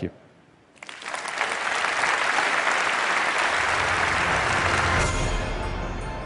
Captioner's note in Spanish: Aplausos